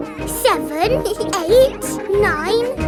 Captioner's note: both giggle